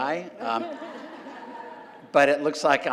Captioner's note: laugh